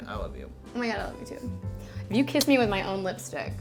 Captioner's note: lips smack